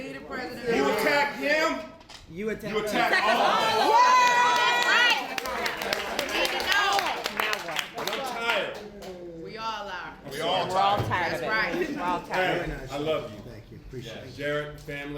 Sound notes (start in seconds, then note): 4.0 applause